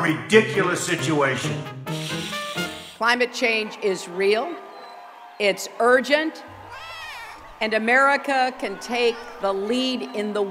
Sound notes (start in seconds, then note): 2.0 cat hissing; 6.7 cat meowing